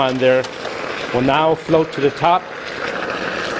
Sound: water boiling

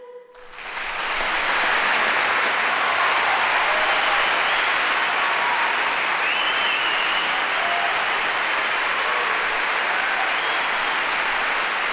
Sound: audience applauds

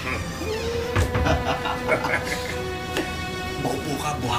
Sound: laughs

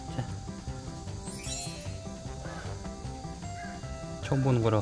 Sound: sniff sniff

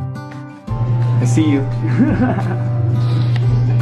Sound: calm guitar music; laughs

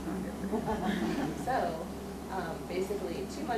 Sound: audience laughs

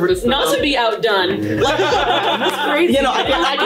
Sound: all laughing loudly

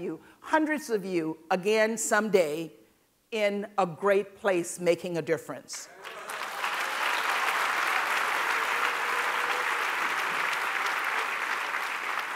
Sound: applause

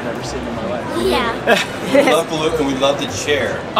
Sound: laughter

